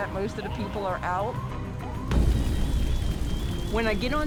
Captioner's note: fire roaring